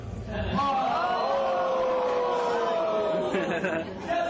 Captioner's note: audience oooohs